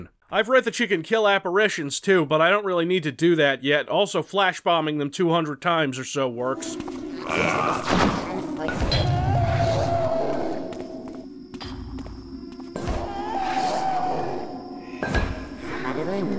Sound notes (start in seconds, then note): 8.7 apparition moaning in pain; 12.7 moaning again